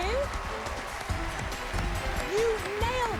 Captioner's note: cheers and applause